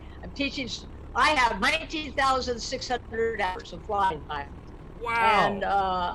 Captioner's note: murmurs